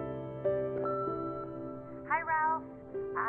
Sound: voicemail beep

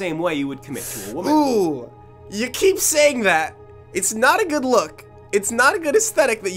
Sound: winces

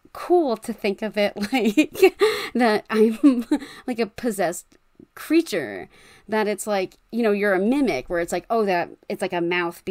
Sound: laughing

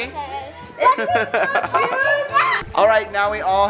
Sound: laughing

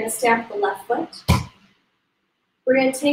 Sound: stamps foot

